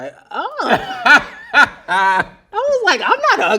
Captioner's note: laughs loudly